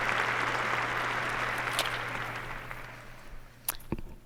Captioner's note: applause